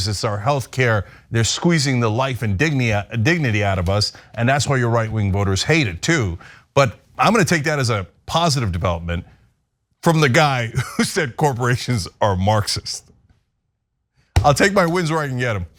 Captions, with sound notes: It's our health care. They're squeezing the life and dignity out of us. And that's why your right wing voters hate it too. But I'm gonna take that as a positive development from the guy [LAUGH] who said corporations are Marxist. I'll take my wins where I can get them.